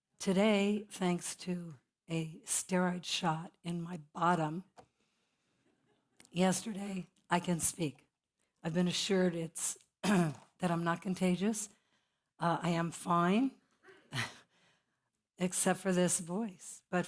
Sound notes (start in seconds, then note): 10.0 cough; 13.6 laugh